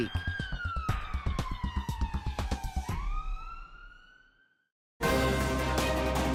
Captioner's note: sirens